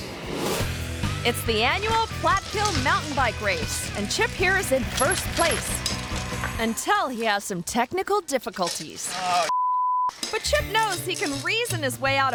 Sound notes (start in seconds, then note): 0.6 upbeat music; 9.5 beep